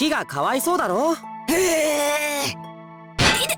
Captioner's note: grumble